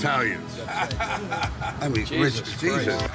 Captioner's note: Dolph laughing